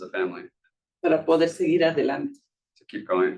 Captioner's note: speaking Spanish